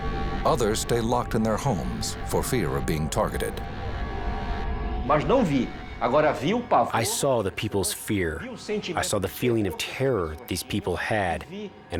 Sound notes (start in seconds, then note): 5.0 speaking Portuguese